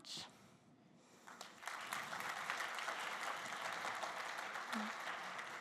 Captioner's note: applause